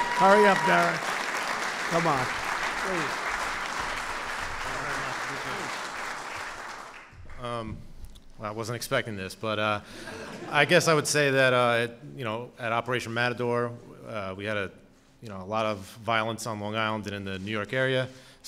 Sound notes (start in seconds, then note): 10.0 laughter